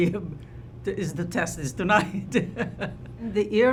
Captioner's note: laughs